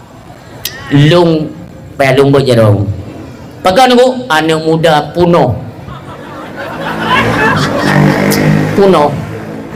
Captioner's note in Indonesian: tertawa